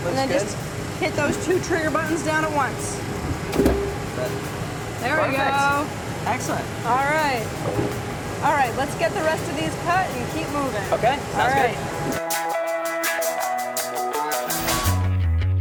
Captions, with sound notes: and then just hit those two trigger buttons down once. (clunking) Look, there we go! - Excellent! - Alright, let's get the rest of these cut and keep moving. - Okay. Sounds good. (upbeat rock music)